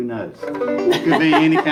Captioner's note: guitar sound; laughing